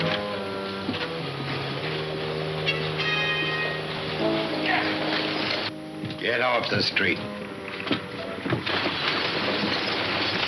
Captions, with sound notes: (shouting) - Get off the street. (hooves clunking)